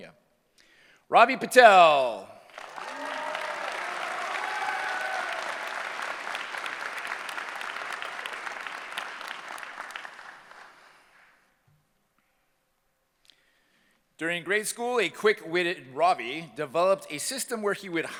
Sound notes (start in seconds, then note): 2.5 cheering; 4.6 applause